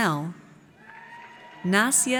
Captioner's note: audience cheers